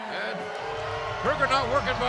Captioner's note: crowd cheering